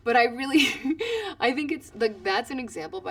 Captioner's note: laugh